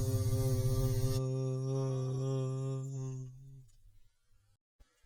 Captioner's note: man continues vocalising